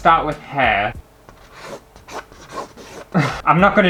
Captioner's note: pen Scraping On Canvas